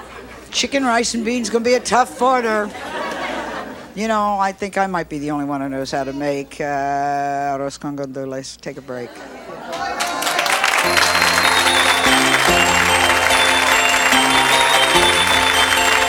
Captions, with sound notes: - Chicken, rice, and beans, gonna be a tough order. You know, I think I might be the only one who knows how to make arroz con gandules; take a break. (audience cheering) (holiday music)